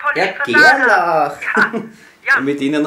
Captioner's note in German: lacht